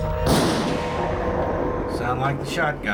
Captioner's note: gunshot